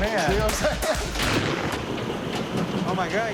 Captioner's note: thunder booming